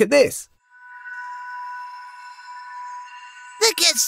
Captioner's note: magic ambient sound